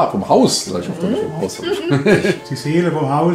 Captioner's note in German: Gemurmel, Lachen